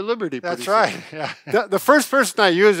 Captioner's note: laughs